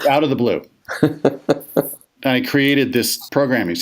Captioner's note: laughs